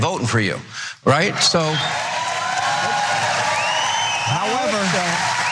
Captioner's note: applause